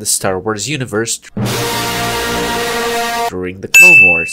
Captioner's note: earrape